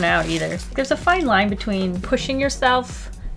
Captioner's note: none